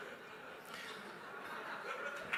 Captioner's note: laughs